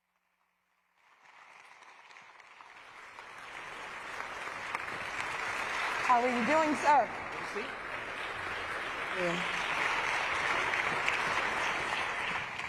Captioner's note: applause